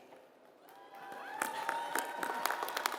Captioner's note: applause